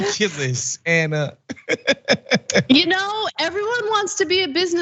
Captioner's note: laugh